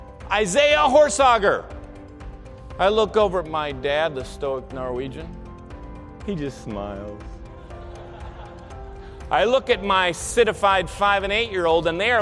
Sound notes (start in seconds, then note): 7.6 audience laughter